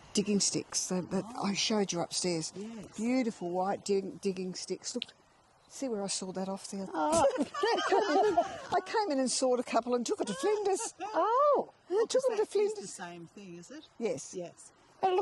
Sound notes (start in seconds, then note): 7.1 all laughing